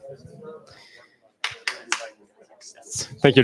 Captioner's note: clapping